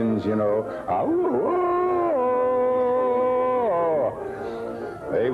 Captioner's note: James roaring like Tarzan